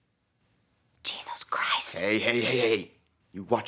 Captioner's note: whispers